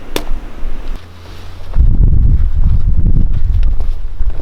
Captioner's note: line snapping